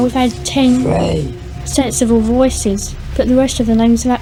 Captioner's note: Demonic voice